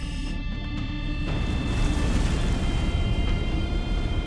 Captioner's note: waves crashing